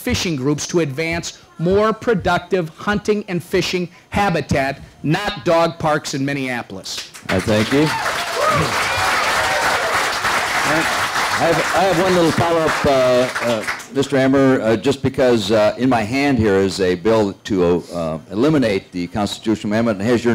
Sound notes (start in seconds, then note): 7.1 applause